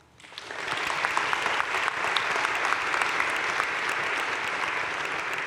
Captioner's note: crowd cheering and applauding